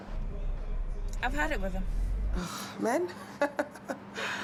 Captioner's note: exhales; Regina laughing